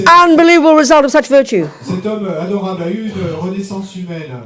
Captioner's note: speaking in French